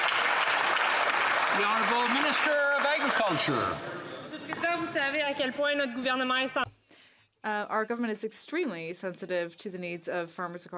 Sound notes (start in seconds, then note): 3.0 some Applause